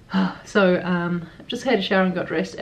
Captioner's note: sigh